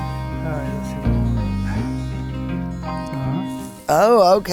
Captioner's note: mumbles